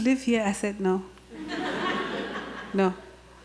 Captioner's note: audience laughter